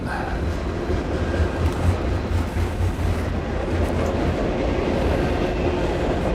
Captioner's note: sound of train